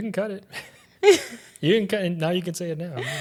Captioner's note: laughs